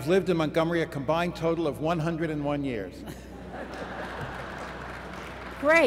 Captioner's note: laughter